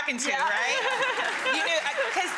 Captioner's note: audience applauding